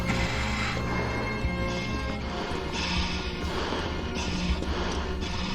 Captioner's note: panting